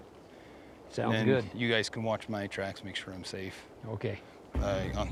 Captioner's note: none